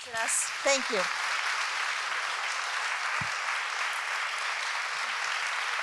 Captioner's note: applause